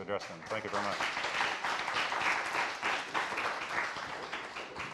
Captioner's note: applause